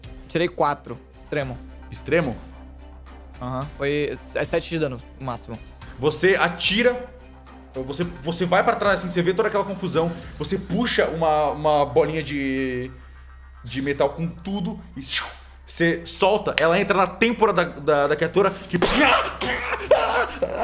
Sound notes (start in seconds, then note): 15.0 shhhew; 18.9 aaah aaah